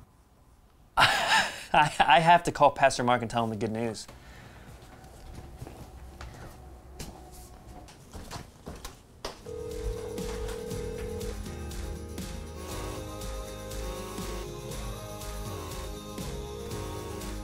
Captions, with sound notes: (laughs) I have to call Pastor Mark and tell him the good news. (phone ringing) (calm music)